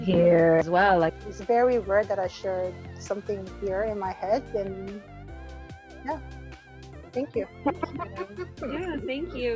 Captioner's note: laughs